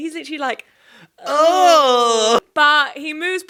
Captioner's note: groaning